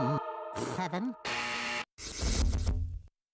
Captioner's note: buzzer sounding